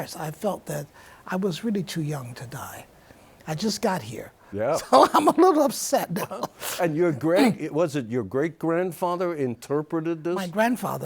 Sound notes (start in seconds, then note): 4.6 laughs